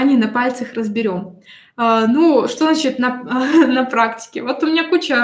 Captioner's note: смех